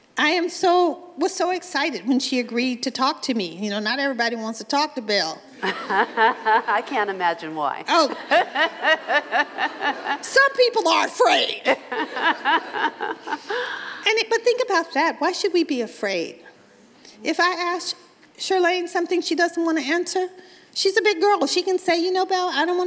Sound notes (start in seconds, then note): 7.9 Chirlane laughs; 7.9 laughs